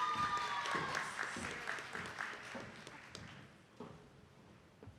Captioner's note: attendees clapping